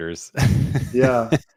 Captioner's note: chuckling